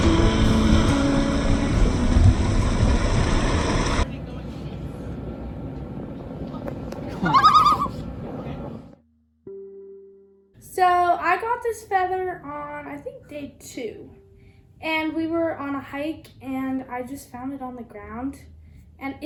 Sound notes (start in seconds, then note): 7.2 loon call